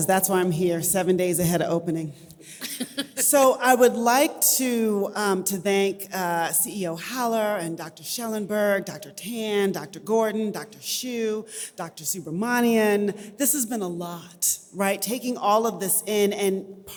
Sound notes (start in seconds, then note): 2.5 laughs